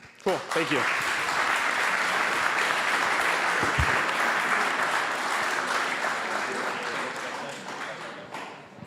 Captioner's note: applause